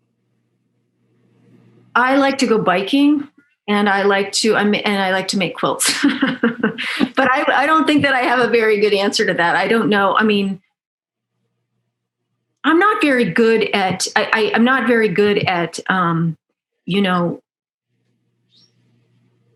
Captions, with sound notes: I like to go biking and I like to make quilts (laughs) but I don't think that I have a very good answer to that. I don't know, I mean, I'm not very good at, you know,